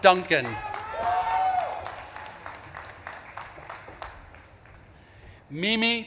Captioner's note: audience claps and cheers